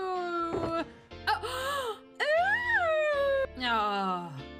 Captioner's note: gasps